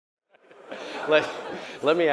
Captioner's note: audience laughter